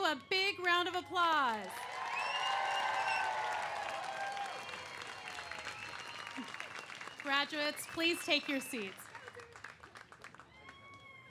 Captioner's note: cheers and applause